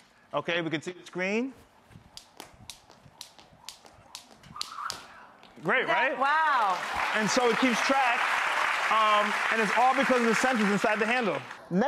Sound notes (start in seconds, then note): 1.6 rope whizzing; 6.0 audience clapping